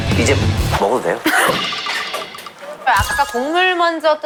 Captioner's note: laughing at his genuine excitement